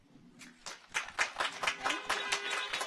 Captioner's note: audience applauds; car horns honking